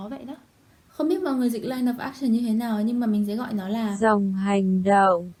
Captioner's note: google translate